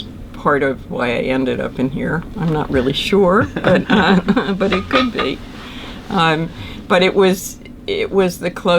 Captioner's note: laughter